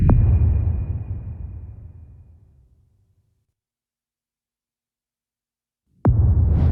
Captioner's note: dramatic sound